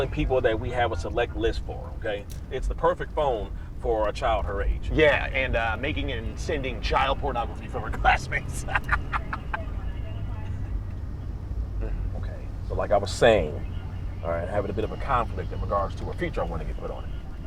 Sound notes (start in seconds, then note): 7.8 cruel laughter